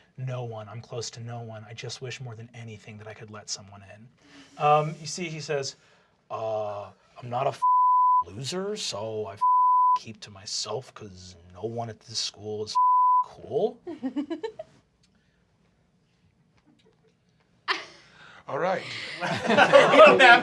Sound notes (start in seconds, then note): 7.0 deep voice; 13.8 laughs; 17.7 laughs